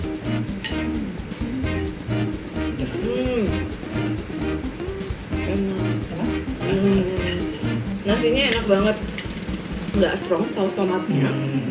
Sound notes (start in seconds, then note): 6.7 laughs